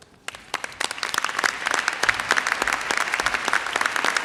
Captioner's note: audience applauds